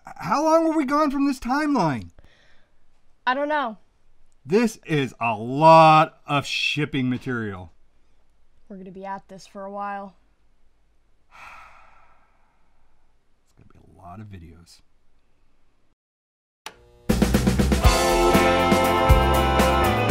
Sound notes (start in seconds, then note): 11.3 heavy sigh; 17.1 upbeat music